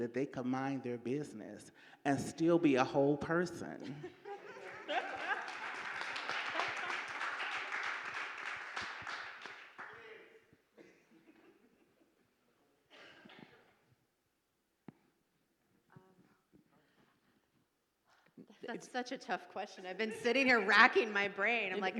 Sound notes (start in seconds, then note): 3.8 audience laughing